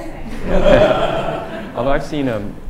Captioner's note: laughter